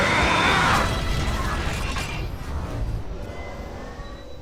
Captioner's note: mechanical Sounds